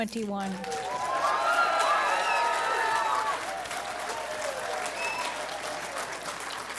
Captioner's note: clapping and Cheering